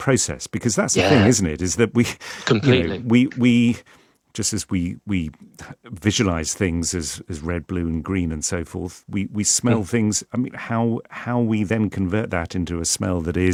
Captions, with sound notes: processed. Because that's- Yeah ... the thing, isn't it? Is that we [chuckles] you know- Completely ... we, we just as we, we visualize things as, as red, blue, and green, and so forth, we, we smell things. I mean, how, how we then convert that into a smell that